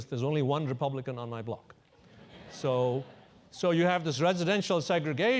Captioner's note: laugh